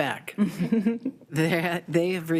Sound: board members laughing

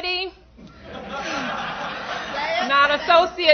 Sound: laughter

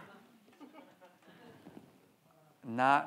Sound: audience chattering

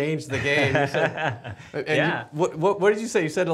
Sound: laughs

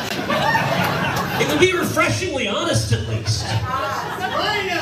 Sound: laugh; laugh

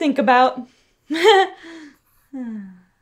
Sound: giggles

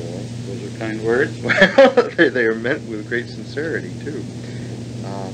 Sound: laughs

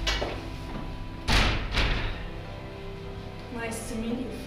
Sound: door slams

